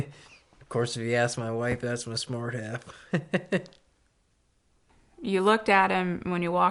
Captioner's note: laughs